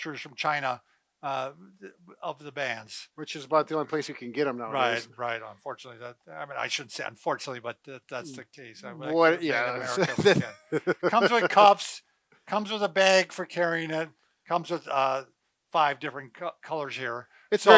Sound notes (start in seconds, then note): 9.8 laughs